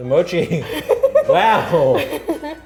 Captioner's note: laughing